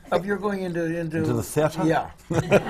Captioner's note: laughter